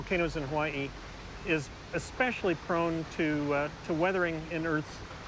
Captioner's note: none